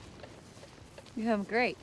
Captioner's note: footstep